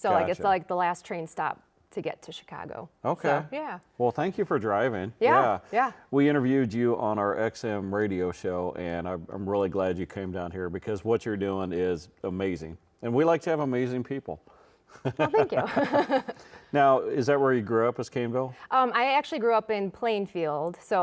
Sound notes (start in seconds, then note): 14.9 laughing; 15.0 laughs